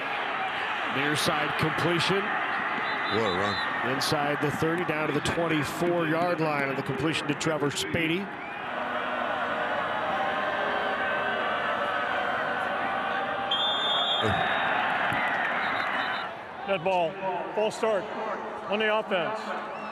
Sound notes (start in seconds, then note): 2.8 referee blows whistle; 8.8 fans boo; 13.5 referee blows whistle; 13.5 fans cheer